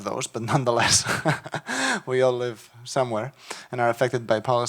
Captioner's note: chuckles